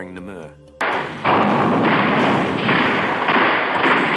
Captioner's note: bombs exploding; guns firing